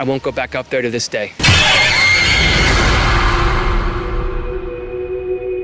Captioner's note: creature shrieking